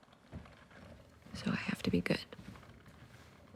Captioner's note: coffee pot gurgling